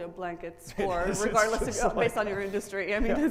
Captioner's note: laughs